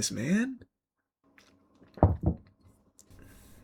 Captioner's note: knocking